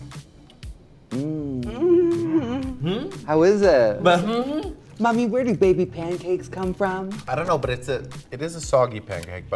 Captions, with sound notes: [others moaning] - Hmm? - How is it? - But hmm? - Mommy, where do baby pancakes come from? - I dunno, but it is a soggy pancake,